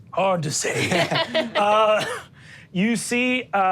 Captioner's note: all laugh